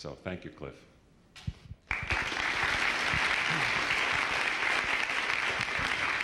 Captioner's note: applause